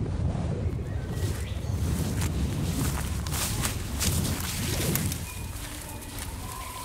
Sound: wind whistling; footsteps crunching

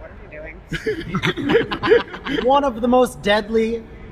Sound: laughter

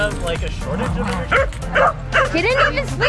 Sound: dogs barking

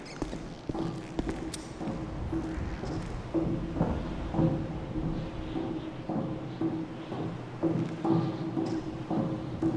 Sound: metallic foot falls from above; foot falls getting closer

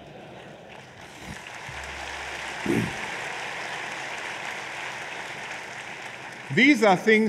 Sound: laughter and applause

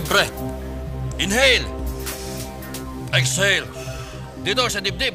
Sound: breathing heavily

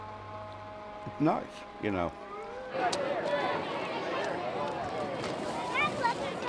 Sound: parade sounds

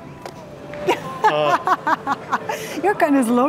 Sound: laughs

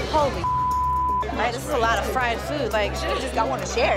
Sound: beep

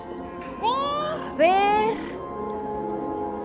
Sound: high-pitched voice

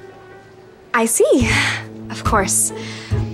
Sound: exhales

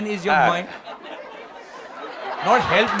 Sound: laughter/Applause

